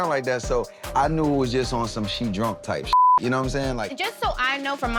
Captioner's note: beep